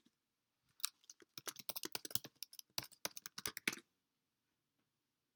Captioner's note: keyboard clicks